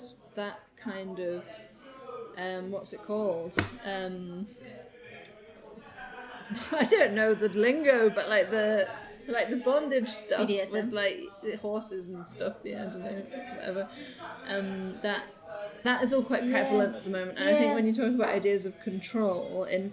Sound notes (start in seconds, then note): 6.3 laughs